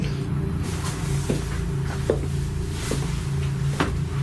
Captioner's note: footsteps